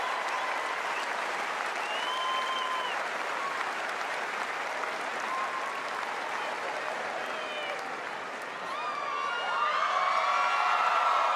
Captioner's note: cheers and applause